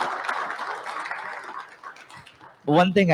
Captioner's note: applause